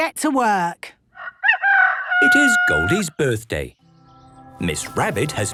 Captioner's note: rooster crowing